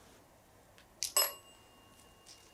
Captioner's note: bell ON